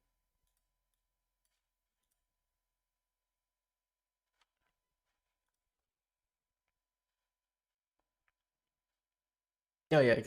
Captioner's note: silence